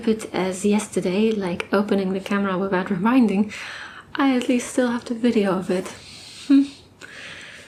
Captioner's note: sighs